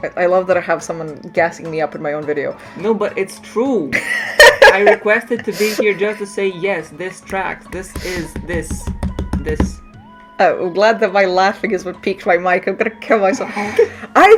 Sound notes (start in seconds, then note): 3.9 laughter; 7.7 aggressive tapping intensifies